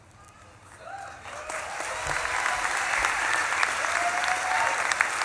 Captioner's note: audience claps and cheers